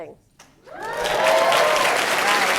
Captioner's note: applause and cheers